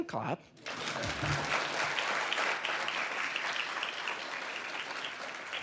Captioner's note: audience applauding